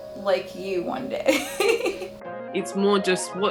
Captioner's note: chuckling